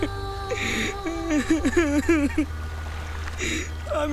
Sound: sobbing

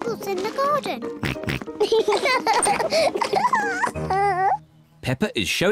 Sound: oinks; both oink and laugh

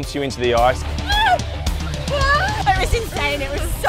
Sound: shrieks

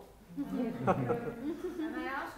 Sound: laughter

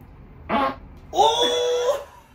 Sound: farts

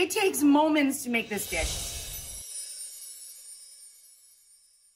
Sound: air whooshes

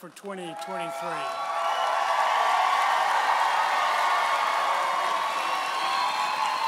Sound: audience applauding and cheering

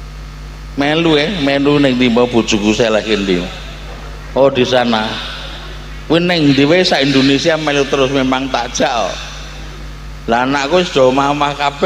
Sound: laughs

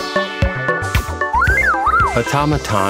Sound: chirping

